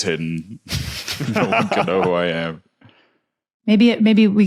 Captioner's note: laugh